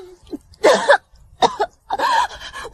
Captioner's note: cough cough